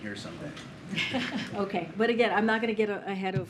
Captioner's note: laughs